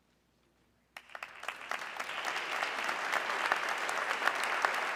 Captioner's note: audience clapping